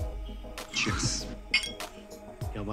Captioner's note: Glasses tinkling